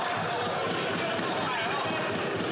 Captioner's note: some Applause